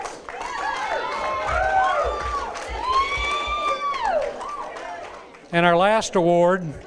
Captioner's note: applause